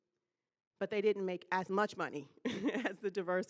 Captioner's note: laughing